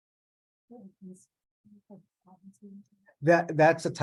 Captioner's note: mumbling